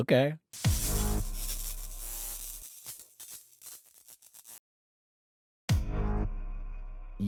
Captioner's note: electricity buzzing